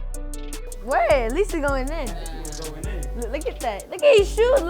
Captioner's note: group chattering